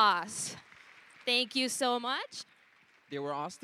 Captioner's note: applause